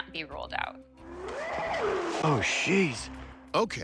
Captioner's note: eerie howl